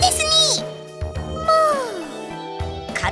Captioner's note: confused surprise